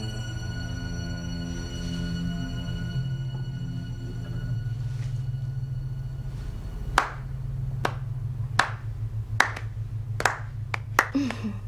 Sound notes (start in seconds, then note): 7.1 clapping